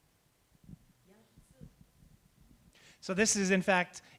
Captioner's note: speaking japanese